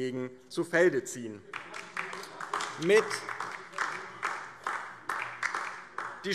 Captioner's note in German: Beifall DIE LINKE